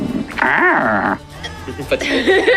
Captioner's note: interested squawking